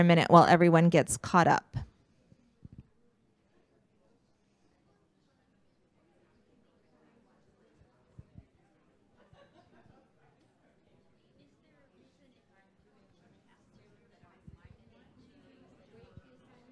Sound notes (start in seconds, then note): 2.3 interspersed conversation